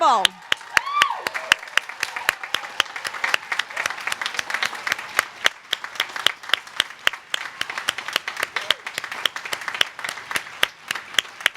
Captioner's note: applause